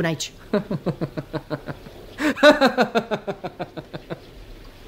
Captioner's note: laughs heartily